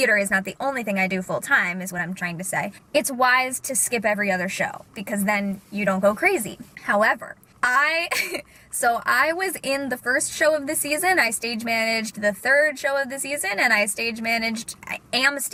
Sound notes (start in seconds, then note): 8.1 laughs